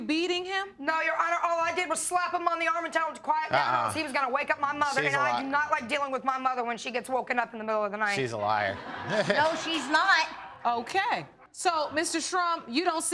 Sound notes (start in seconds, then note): 8.4 laughs